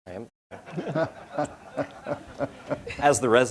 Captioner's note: audience laughing